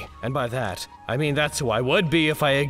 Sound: none

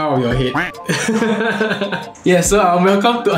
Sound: laughs

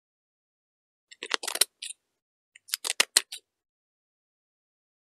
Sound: sound of paper

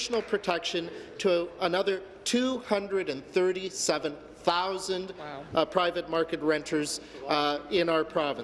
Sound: applause

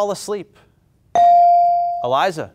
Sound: buzzer pings

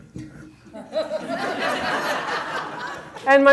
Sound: audience laughter

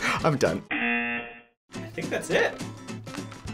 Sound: buzzer rings

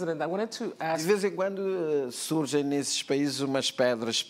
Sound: speaking portuguese

